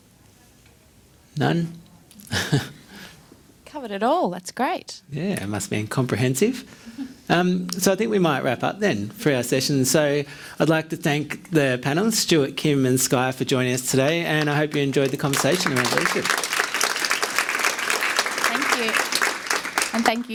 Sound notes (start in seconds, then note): 2.3 laughs; 14.0 clapping drown the speaker; 17.5 audience claps